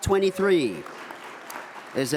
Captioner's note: audience applauds